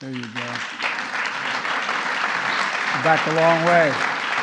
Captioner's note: applause